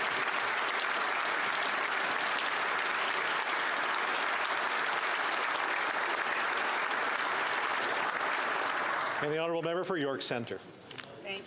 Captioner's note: applause